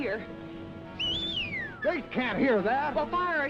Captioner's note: whistling